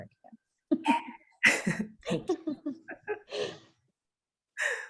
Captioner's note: both laughing